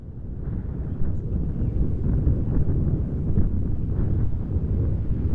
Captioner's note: wind whooshing